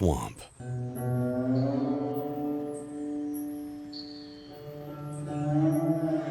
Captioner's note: birds chirping